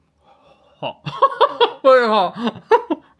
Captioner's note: laughs